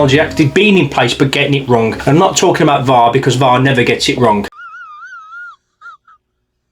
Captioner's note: laughing